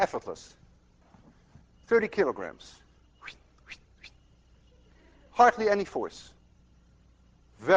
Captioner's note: whistles softly